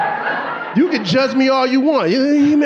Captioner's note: audience laughing